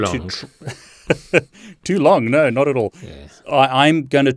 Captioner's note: laughs